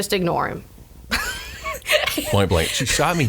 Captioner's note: laughs